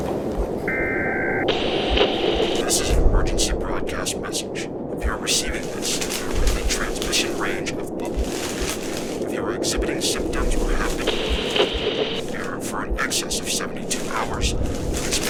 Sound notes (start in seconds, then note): 2.9 voice On Radio; 12.1 radio static